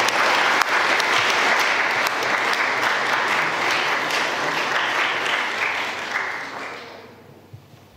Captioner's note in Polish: oklaski